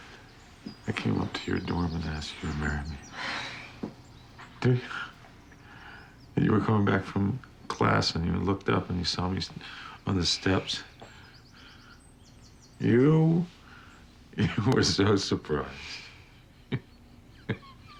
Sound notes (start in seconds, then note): 3.0 sighs; 11.7 chuckling; 15.8 laughs